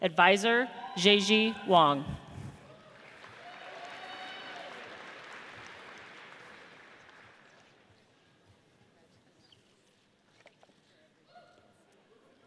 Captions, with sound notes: Advisor, Zhijie Wang. (audience cheers)